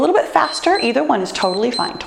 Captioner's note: timer beeps